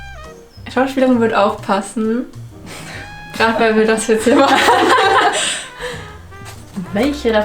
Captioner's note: laughing starts